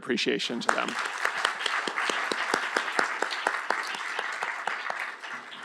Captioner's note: applause